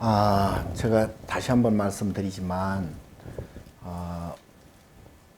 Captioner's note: speaking Korean